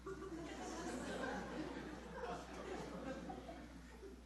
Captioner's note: audience laughing